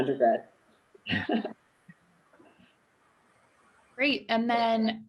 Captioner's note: laughing loudly